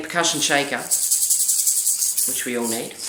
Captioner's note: rattling